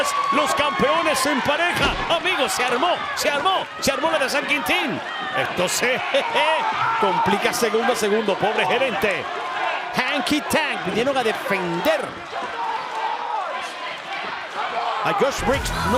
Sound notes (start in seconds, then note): 6.1 laugh